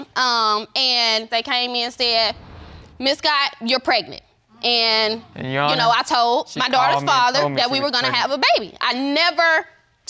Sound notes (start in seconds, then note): none